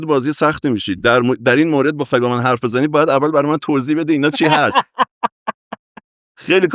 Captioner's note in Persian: خنده